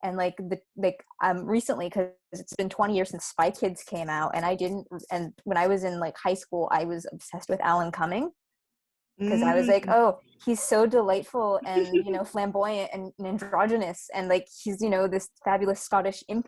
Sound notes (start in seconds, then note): 11.7 giggling